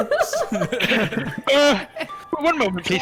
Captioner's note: unruly giggles